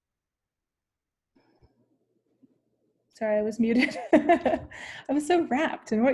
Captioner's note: laughter